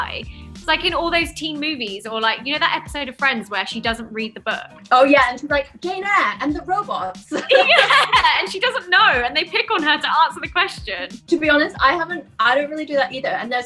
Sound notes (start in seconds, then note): 7.3 laughter